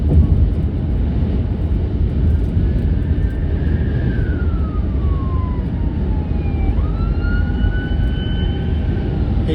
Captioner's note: ambulance siren blaring